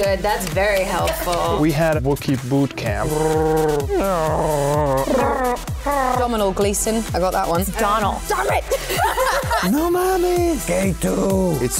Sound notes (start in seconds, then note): 2.7 trills; 8.7 laughter